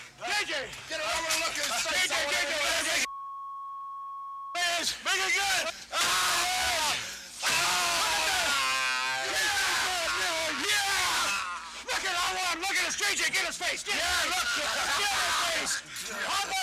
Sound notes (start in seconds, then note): 0.9 people yelling; 3.0 beep; 7.4 people yelling; 7.4 Dusty screaming